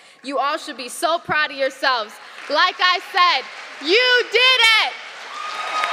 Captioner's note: applause